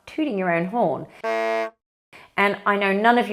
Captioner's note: horn honking